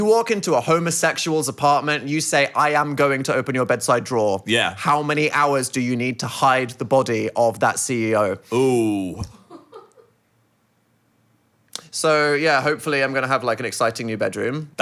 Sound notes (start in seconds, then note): 8.5 producer laughing